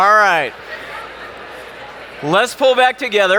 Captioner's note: audience talking